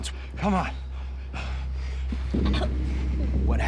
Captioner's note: choking